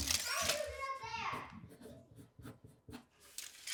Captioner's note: child fussing